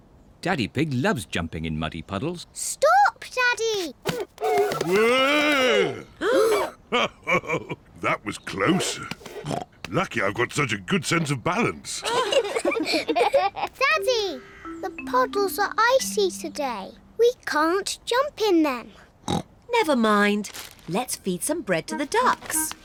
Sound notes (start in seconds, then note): 6.0 all gasp; 6.9 chuckles; 8.6 snorts; 12.0 all giggle; 18.9 snorts